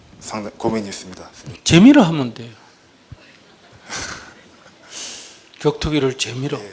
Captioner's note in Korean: 질문자 웃음